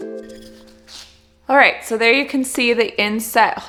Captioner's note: drilling